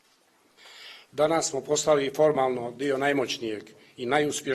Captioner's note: speaks in Montenegrin